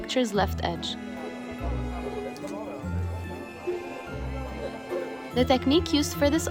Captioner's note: crowd Chatter